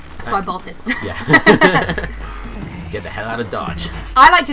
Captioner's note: laughter